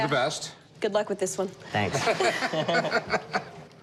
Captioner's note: laughter